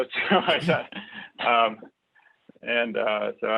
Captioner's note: laugh